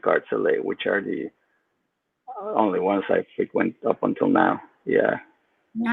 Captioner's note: speaks faintly